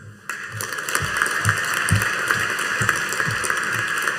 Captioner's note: audience applauding